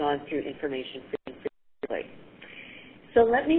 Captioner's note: audio cuts out